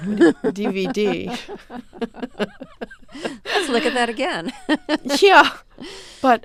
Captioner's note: soundbite of laughter